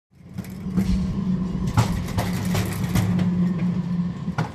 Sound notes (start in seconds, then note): 0.1 rail car running